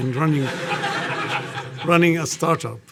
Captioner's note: audience laughing